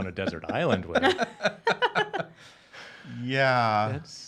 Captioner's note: laughing